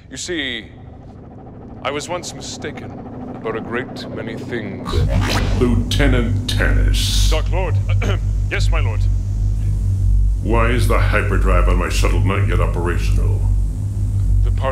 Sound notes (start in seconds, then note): 7.9 clears throat